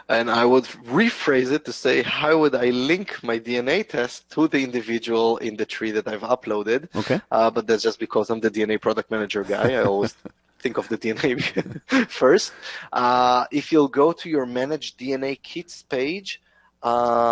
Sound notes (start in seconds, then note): 10.8 chuckles; 10.8 laughs